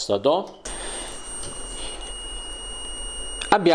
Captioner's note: buzzer sound